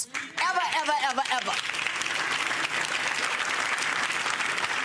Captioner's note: audience applauding